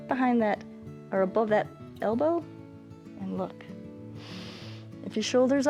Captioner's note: inhales